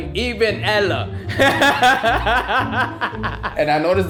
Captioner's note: laughter